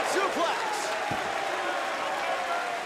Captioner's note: crowd cheering